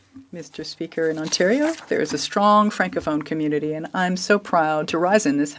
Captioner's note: speaking French